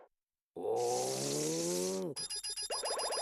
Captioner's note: grunting